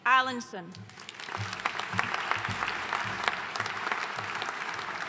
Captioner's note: audience applauding